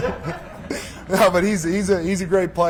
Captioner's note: laughing